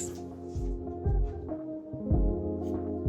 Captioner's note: brush scrapes